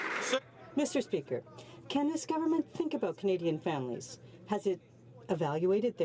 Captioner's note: some Applause